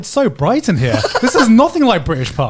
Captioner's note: laughing